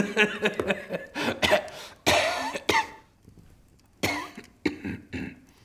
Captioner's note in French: tousse